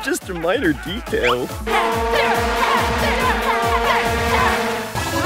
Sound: cheering

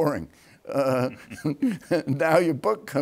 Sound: both laughing

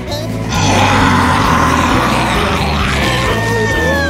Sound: growling

